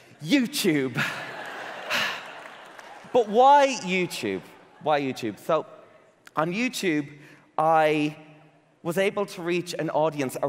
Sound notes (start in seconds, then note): 0.9 audience laughing; 1.9 sighs excitedly